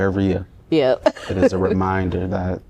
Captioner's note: laughter